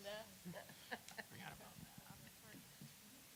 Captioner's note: laughter